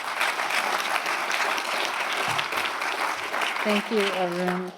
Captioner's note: applause